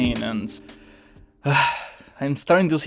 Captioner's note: sigh